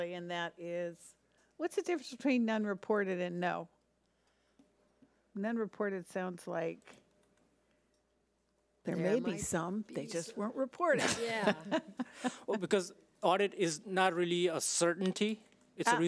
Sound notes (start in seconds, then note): 11.0 laughs